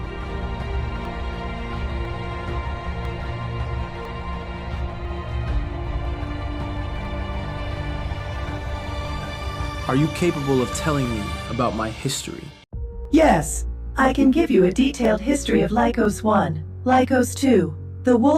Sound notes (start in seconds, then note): none